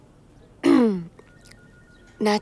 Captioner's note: Clearing throat